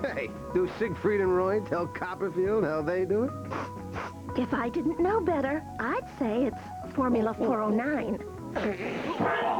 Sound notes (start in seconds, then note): 3.4 sniffing